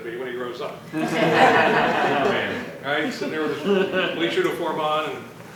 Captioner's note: laughter